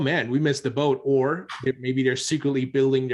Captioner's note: chuckles